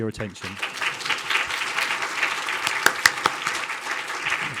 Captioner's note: audience applauding